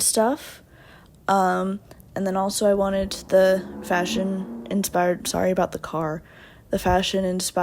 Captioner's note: car loudly drives